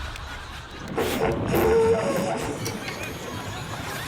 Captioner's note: thunder rumbles